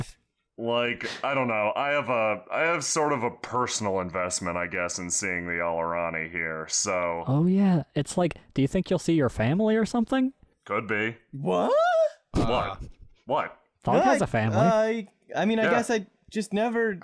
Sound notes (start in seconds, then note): 10.6 various surprised sounds